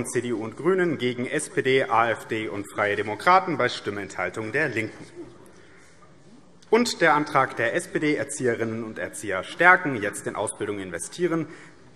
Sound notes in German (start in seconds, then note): none